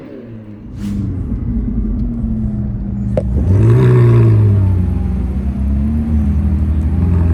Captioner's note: whirring